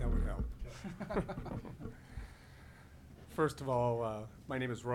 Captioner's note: laughing